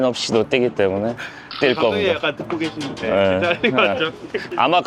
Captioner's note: laughs